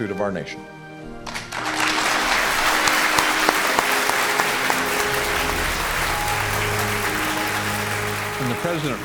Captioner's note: applause